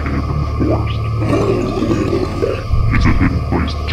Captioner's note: evil laugh